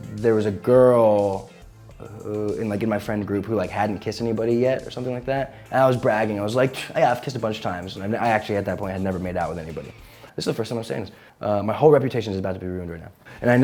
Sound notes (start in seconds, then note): 6.7 scoffs